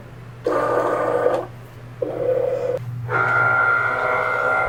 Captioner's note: machine whirring